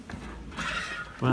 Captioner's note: creak